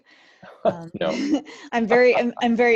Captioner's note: laughs